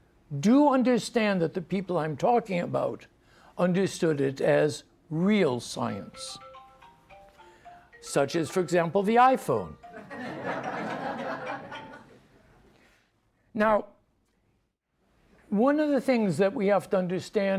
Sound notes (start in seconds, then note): 6.0 phone ringing; 10.0 audience laughs